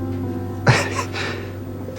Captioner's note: Max laughs sadly